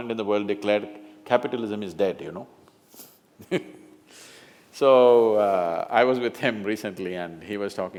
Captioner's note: laughs